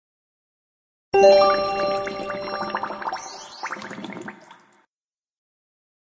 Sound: sound of magic potion

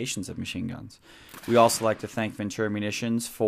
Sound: gun shot

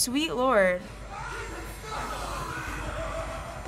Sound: agonized screams

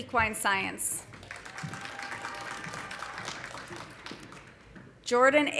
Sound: audience applauding; audience cheering

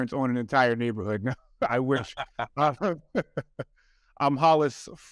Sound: chuckles

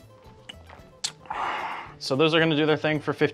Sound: sighs

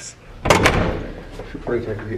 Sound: door clicks

